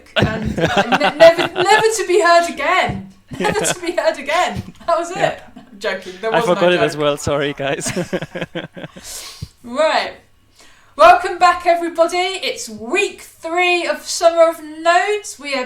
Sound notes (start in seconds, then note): 2.6 chuckles; 9.1 laughs